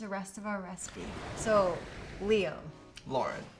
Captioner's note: water splashes